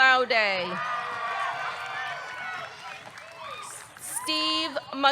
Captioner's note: audience cheering; audience clapping